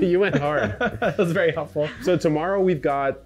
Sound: chuckling

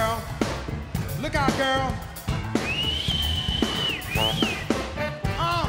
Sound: whistling

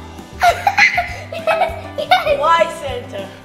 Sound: giggling

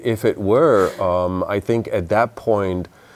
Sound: laughs

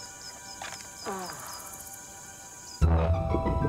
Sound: grunts

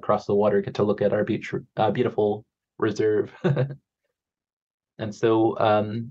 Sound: chuckles

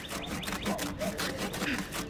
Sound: SFX: Sawing

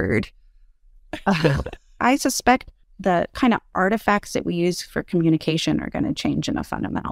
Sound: laugh

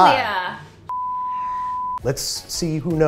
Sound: beep

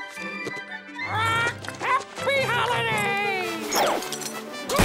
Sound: squawking

